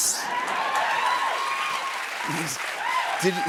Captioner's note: cheers and applause